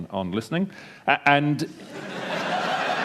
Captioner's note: laughter